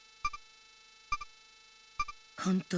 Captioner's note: silence